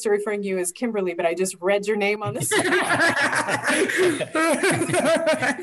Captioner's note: laughing